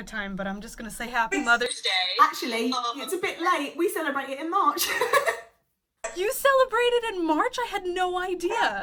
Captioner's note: laughs